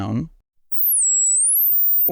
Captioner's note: high pitched sound